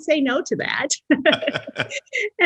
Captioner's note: laughs